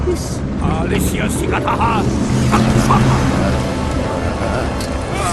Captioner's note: in Sanskrit